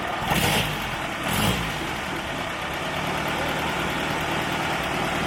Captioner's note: engine revving